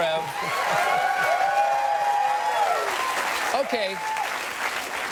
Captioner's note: audience applauds; audience cheers